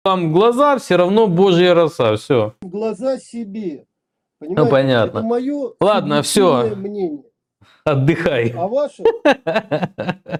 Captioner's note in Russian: смех